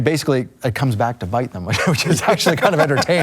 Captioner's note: laughs